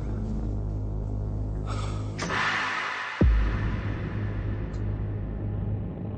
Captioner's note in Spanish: Benjamín exhala